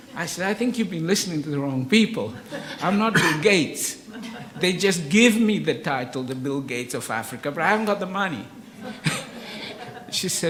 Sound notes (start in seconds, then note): 2.2 audience laughs; 8.5 audience laughs; 8.6 laughs